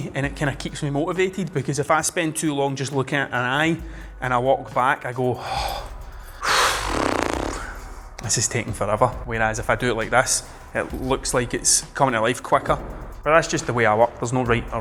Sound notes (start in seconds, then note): 6.4 annoyed grunt